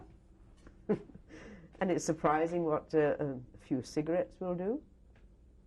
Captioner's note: laughs